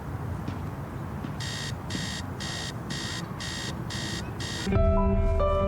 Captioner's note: alarm clock beeping